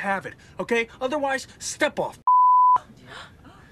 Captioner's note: beep; Flight Attendant gasps